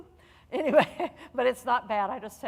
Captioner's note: laughing